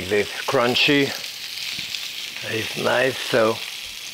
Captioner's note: meat sizzling